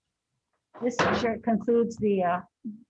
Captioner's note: pounding gavel